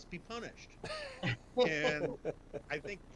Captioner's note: laugh